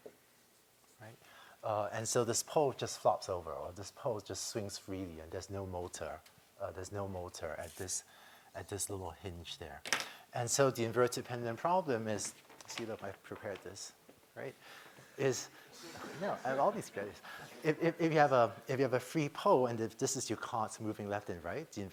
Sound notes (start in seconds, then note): 15.7 laughter